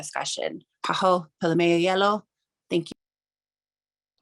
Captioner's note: speaking in Native language